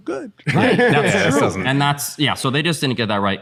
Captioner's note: laughter